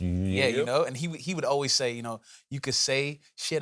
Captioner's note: south central accent